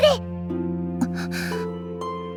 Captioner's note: gasp